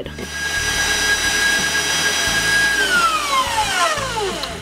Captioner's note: mixer running noise